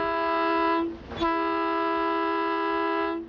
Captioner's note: horn